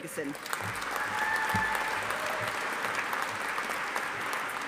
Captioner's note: audience applauding